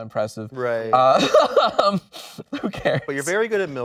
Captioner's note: laughing